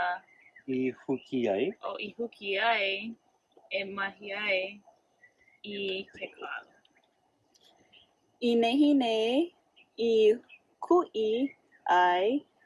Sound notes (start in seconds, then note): 0.0 student 1 speaks in native language; 0.2 Instructor speaks in native language; 1.9 student 1 continues speaking in native language; 8.0 student 2 speaks in native language